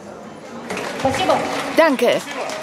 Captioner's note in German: Applaus